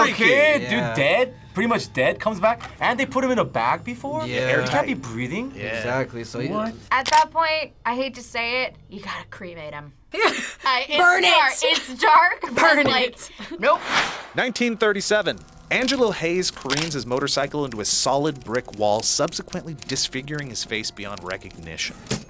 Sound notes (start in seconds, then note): 10.0 laughs